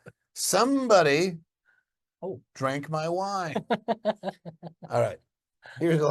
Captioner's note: laughs